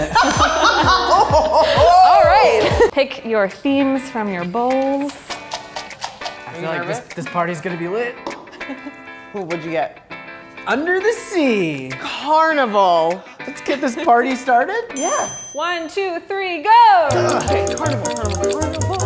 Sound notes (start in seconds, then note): 0.0 laughing and whooping; 0.1 counter dings; 5.6 paper shuffling; 15.0 counter dings